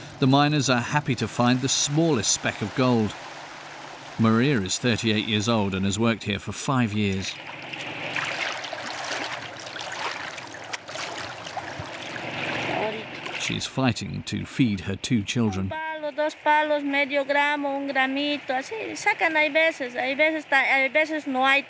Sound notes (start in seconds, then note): 9.0 water whooshing; 16.3 speaking in foreign language